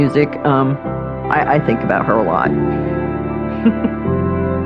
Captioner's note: laughihing